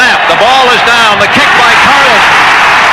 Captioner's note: crowd cheering